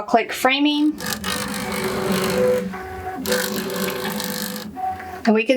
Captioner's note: machine whirring